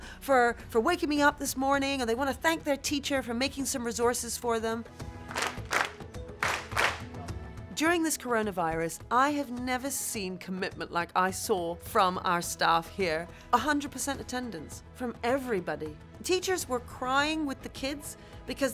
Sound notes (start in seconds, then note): 6.3 hands clapping